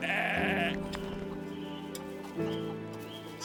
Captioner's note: sheep bleating